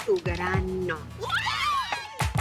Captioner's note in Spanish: Gritos